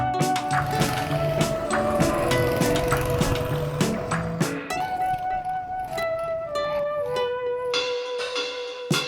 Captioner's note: go Kart Engines Roar